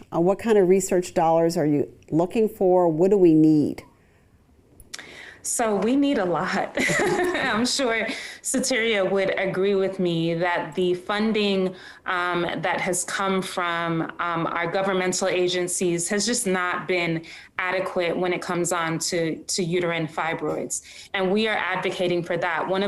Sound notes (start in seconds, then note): 6.8 laughing